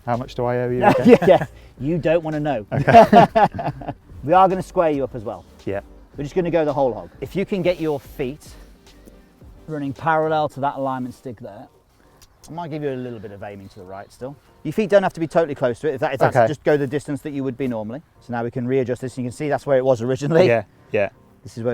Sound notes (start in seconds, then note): 2.7 laughs